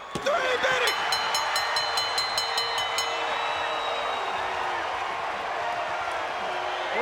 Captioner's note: crowd clamoring; bell dinging; crowd clamoring